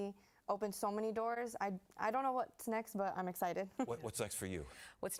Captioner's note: laughter